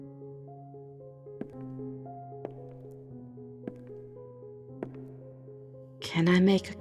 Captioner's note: footsteps